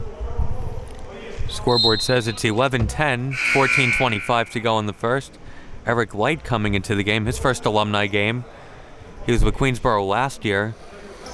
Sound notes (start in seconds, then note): 3.2 whistle blows; 3.3 buzzer dings